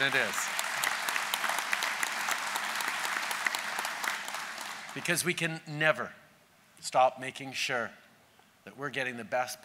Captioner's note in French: Applaudissements